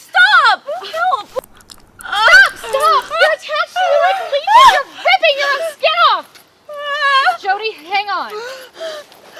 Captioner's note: squishing sound